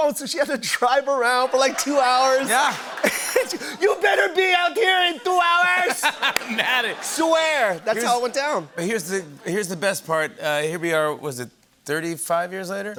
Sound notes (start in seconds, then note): 5.8 laughter